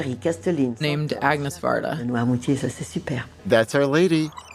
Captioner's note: speaking in French; speaking in French